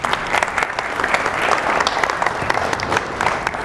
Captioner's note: clapping